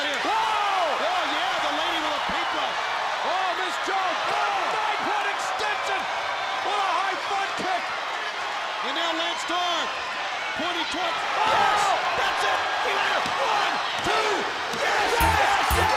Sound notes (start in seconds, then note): 0.0 crowd chatter; 0.2 crowd cheering; 11.7 crowd chatter; 15.0 crowd cheering